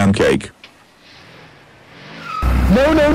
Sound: rocky's engine starting

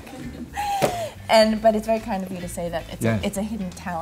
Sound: laughs

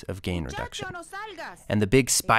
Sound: foreign language 00:09:25

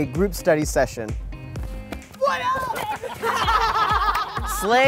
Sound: laughter

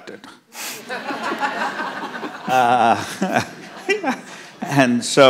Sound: laughter

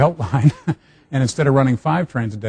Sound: laughing

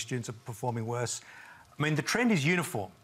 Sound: none

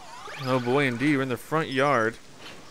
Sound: voiceover

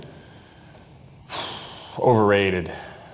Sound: exhale

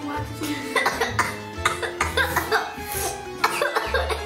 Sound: coughing

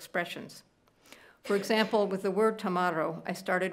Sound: speaking italian

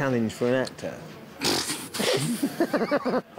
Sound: both laughing

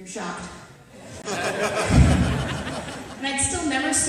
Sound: audience laughter

